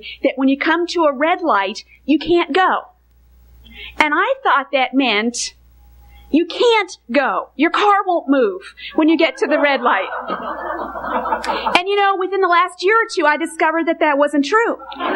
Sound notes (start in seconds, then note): 8.8 congregation laughing